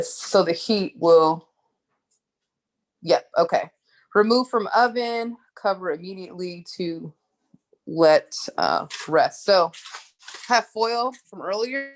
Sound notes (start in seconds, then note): none